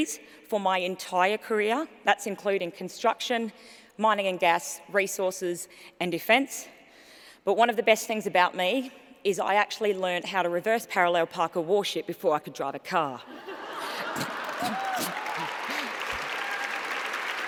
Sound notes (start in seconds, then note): 13.2 laughter